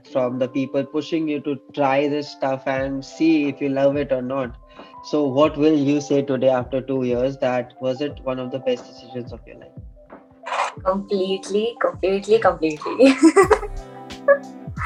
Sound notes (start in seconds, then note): 12.6 laughs